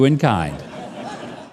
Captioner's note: audience laughing